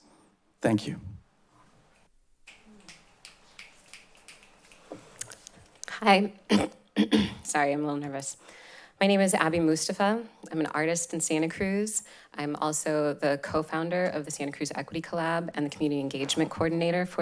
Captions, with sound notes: Thank you. [snapping fingers] - Hi. [clears throat] Sorry, I'm a little nervous. My name is Abby Mustafa. I'm an artist in Santa Cruz. I'm also the co-founder of the Santa Cruz Equity Collab and the Community Engagement Coordinator